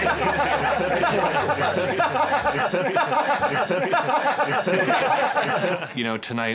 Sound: maniacal laughter

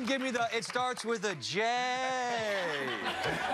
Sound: cheers and applause

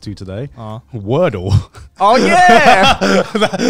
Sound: laughing

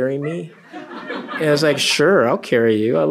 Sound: laughter

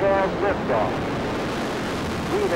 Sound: rockets firing

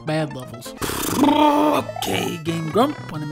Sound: Donald Duck Sound

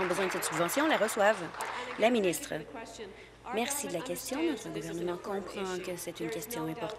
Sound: applause

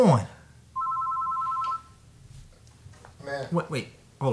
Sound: phone ringing

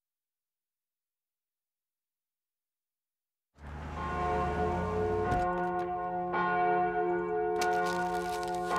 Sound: church bell ringing

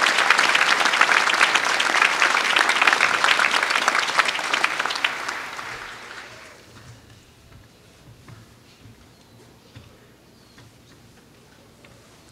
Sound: applause

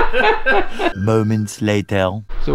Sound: laughter

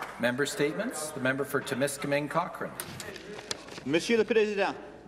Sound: applause

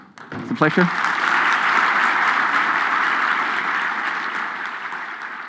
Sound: audience applauds

